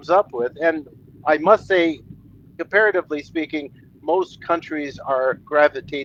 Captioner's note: french spoken